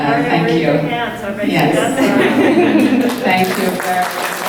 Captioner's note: clapping from the audience